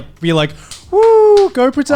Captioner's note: cheering